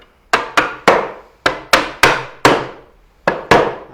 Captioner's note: mallet tapping